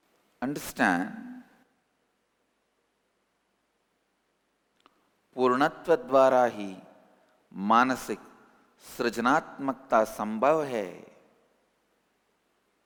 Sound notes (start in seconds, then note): 5.6 hindi